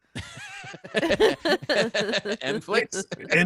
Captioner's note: laughing